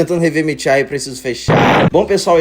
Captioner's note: explosion